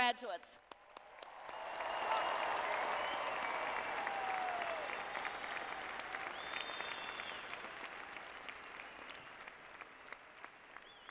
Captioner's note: cheering and Applause